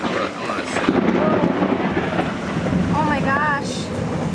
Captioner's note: loud thunder clap